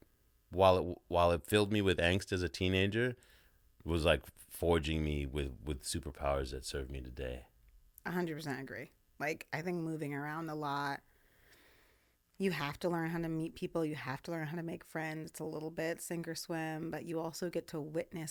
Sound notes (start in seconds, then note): none